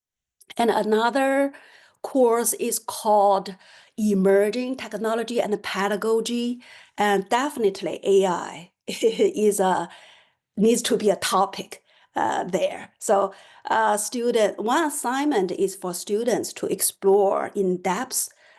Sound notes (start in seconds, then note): 9.0 laughter